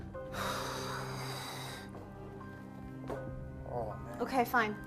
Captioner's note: Jada exhales sharply